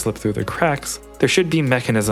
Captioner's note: none